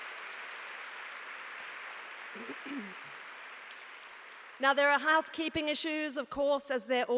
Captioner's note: applause